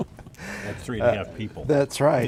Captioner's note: laughing